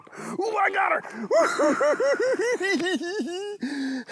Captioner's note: laughing